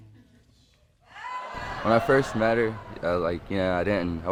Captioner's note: audience gasp